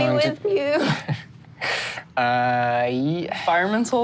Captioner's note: Ricky chuckles